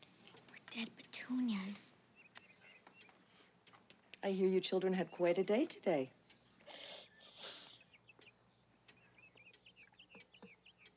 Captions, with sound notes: - We're dead petunias. - I hear you children had quite a day today. (Warren snickers)